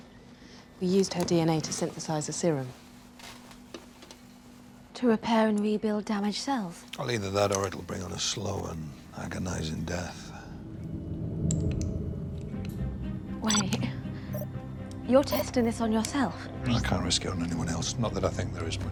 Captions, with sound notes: It was the breakthrough we needed. We used her DNA to synthesise a serum. To repair and rebuild damaged cells? Either that, or it'll bring on a slow and agonising death. -Wait. -[computer beeps] You're testing this on yourself? Can't risk it on anyone else.